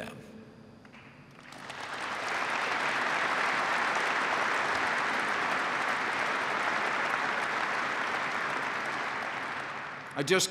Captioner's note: applause